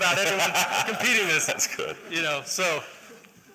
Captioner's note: laughter